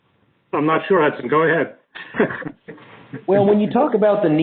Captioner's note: laughs